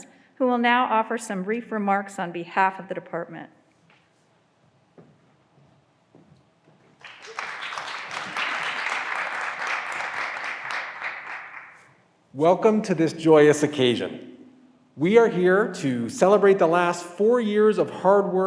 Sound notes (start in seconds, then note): 7.0 graduands applauding